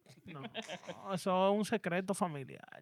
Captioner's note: speaking In Foreign Language